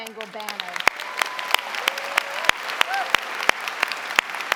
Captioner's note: audience applauding